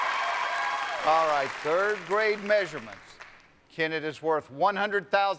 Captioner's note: cheers and applause